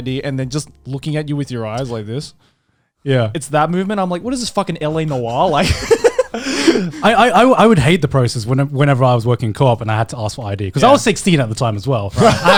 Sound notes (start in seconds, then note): 5.0 laughing; 12.2 laughing